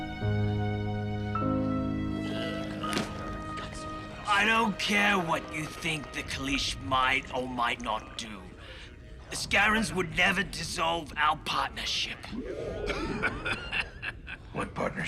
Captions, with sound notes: I don't care what you think the Kalish might or might not do. The Scarrans would never dissolve our partnership. [laughing] What partnership?